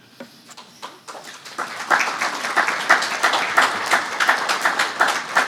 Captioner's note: audience clapping